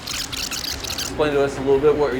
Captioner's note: tape fast forwarding